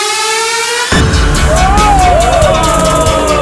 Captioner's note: Hooting